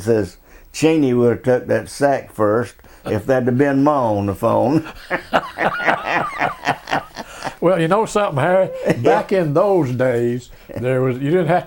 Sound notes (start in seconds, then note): 4.7 both laughing